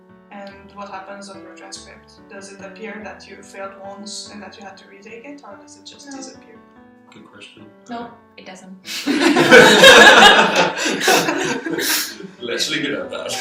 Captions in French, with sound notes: Et que se passe-t-il avec ton relevé de notes? Est-ce que c'est écrit que tu l'as échoué une fois et que tu as dû le reprendre? Ou est-ce que ça disparaît? Non, ça n'apparaît pas. (rires) Restons-en là. (rires)